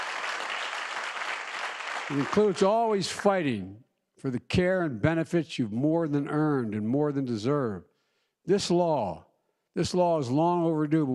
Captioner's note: applause